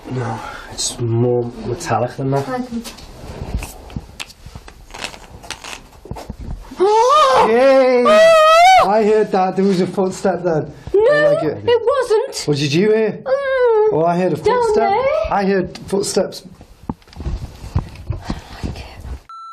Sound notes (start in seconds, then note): 6.9 gasping; 13.7 moans; 19.3 metre beeps